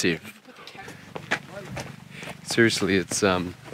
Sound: footsteps

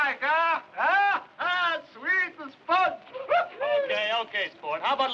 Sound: cheers

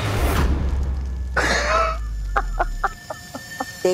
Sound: cackles

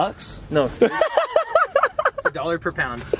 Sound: laughing hysterically

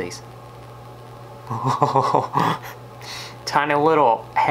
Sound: chuckles

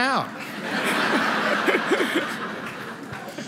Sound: laughter

